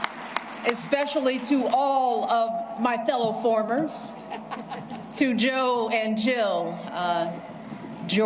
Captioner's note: applause